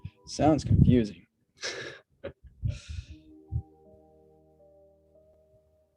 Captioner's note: laughs